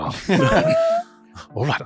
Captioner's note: laughter